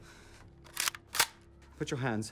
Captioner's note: gun clicking